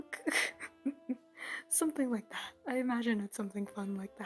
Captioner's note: chuckle